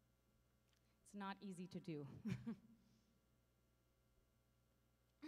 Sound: chuckles

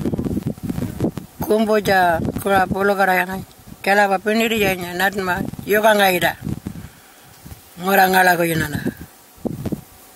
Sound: continues to speak in Aboriginal language

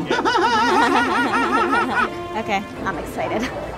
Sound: laughs nervously

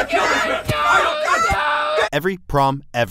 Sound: distressed shouts

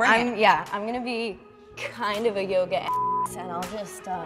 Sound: beep

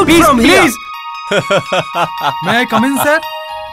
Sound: laughs

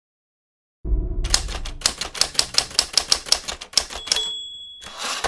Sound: typing sound

